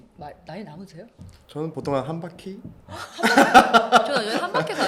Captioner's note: ha ha